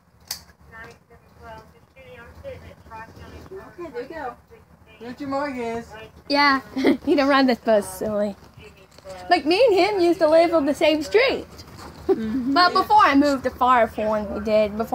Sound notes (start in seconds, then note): 0.3 seat belt buckles; 6.7 chuckling